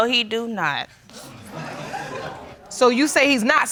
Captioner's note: audience laughing